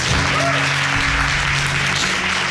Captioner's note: applauding